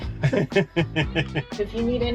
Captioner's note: laughing